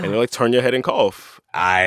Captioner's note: soundbite of archived npr broadcast